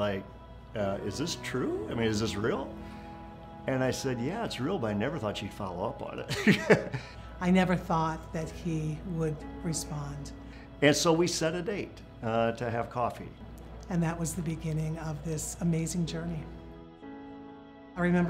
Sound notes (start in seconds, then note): 6.3 laugh